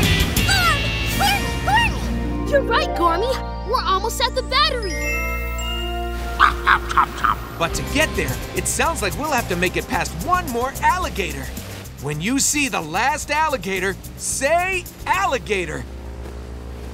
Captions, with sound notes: Gorm! Gormy gormy! You're right Gormy, we're almost at the battery. [chomping] But to get there, it sounds like we'll have to make it past one more alligator. When you see the last alligator say, alligator!